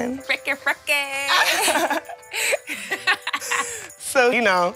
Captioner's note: laughter